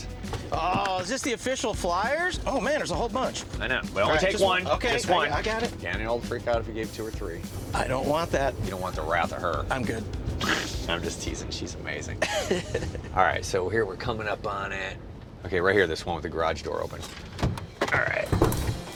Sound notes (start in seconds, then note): 12.2 laughs